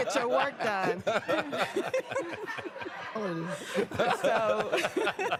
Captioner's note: laughter